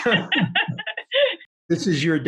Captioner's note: laughing